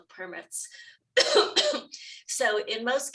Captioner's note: panelist coughing